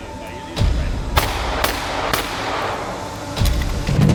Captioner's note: wailing sounds